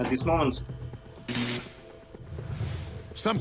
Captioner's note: zapping